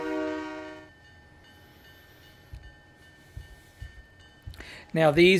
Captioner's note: train whistle